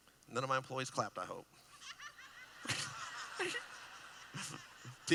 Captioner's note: laughing